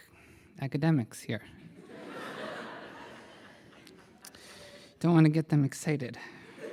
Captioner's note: laughter